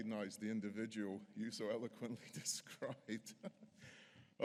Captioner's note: laughs